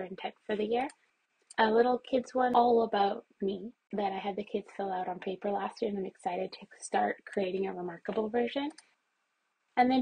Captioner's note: mouse clicks